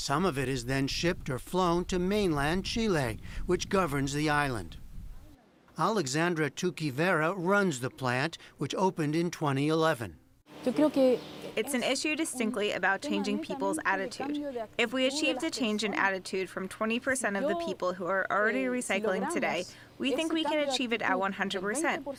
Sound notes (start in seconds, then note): 11.1 through translator